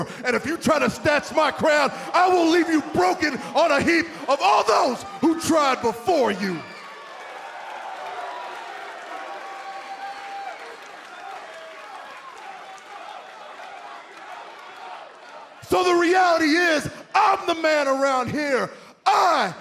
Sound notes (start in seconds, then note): 7.8 cheers and boos